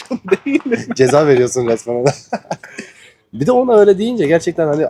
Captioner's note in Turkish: kahkaha